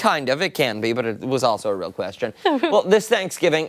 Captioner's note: laughter